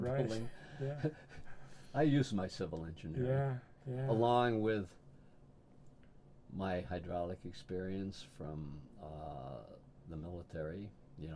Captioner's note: laughs